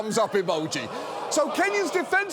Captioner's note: audience groans